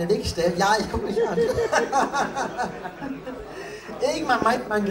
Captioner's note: pained laughing